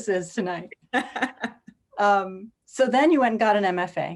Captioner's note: laughs